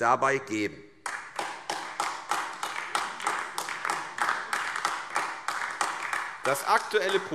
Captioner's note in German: Beifall AfD